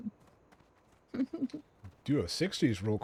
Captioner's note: laughing